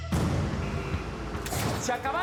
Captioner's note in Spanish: sonido de motor acelerado